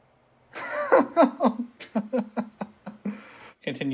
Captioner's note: nervous laughter